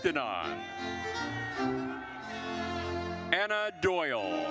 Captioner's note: attendees cheering